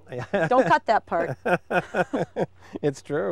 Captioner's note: laughing